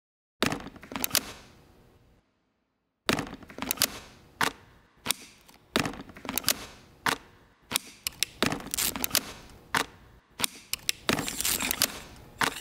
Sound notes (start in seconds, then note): 0.7 camera gear clicking; 8.6 velcro snapping; 9.6 camera gear clicking; 11.0 metal sliding